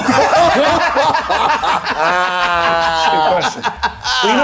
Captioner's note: everyone laughing